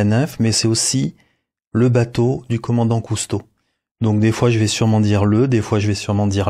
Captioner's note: male in french